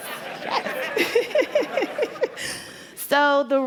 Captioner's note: laughter